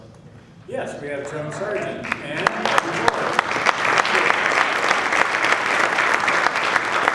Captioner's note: applause drowns out speaker